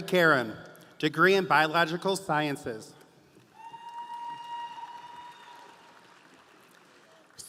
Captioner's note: audience applauding